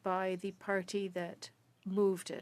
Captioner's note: speaking French